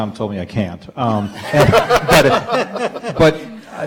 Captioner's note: audience and panel laughing